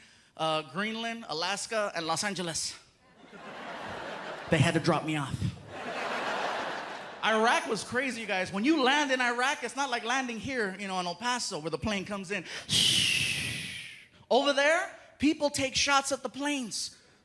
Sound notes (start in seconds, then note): 12.9 imitates landing airplane